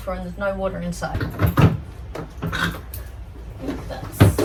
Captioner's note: hollow clanks of locking mechanism